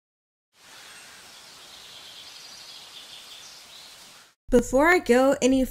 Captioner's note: nature sound effects